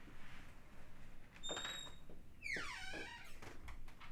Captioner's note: door squeaking